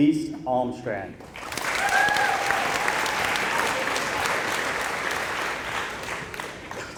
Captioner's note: applause